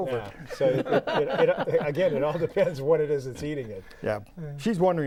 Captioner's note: laughing